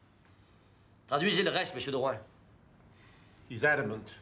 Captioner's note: Rene speaking in foreign language